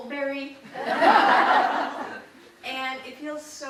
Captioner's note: audience laughing